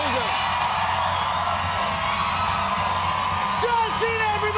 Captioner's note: cheers and applause